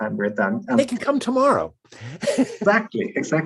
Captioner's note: chuckles